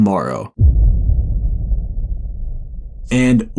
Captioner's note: dramatic rumble